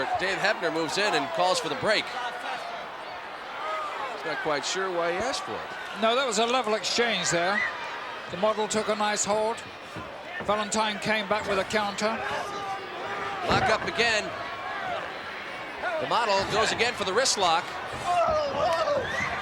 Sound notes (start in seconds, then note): none